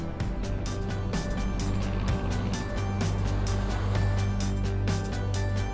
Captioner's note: plane engine roaring; upbeat music